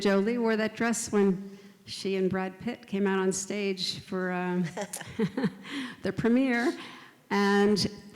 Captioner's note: both laugh